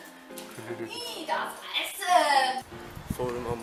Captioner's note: strange woman speaks in German